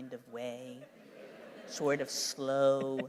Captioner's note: laughter